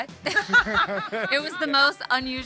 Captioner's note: laughing